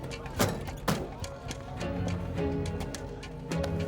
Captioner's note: door slam